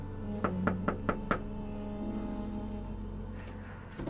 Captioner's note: knocking at door